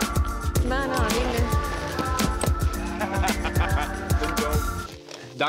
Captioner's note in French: rires